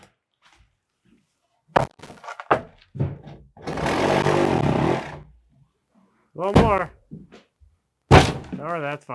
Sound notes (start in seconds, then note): 3.6 power tool whizzing